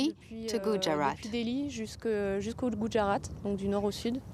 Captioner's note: speaking french